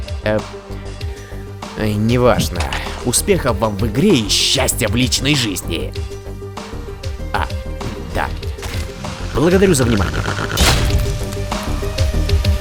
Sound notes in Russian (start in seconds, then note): 8.2 звуки жучка; 9.2 нарастающее хрюканье